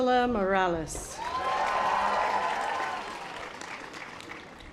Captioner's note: audience applause